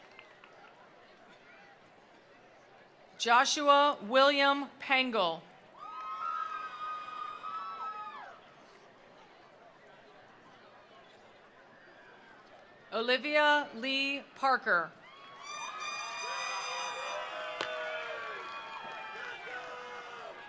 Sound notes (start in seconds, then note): 0.0 attendees applauding; 0.0 attendees cheering; 5.7 attendees applauding; 5.8 attendees cheering; 15.0 attendees cheering; 15.8 attendees applauding